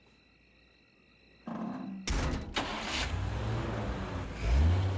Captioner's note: door closes, engine starts